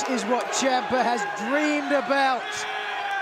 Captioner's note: crowd chatter